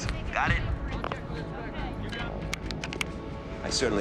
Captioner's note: line disconnects